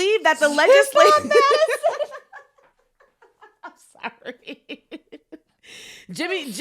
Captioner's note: laughs